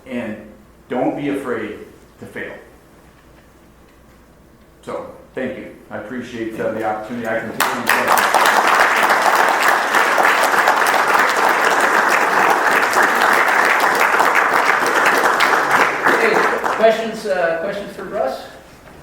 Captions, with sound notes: And don't be afraid to fail. So thank you. I appreciate the opportunity. I can take any questions. (audience applauds) - Okay, questions for Russ?